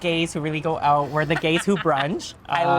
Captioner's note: laughing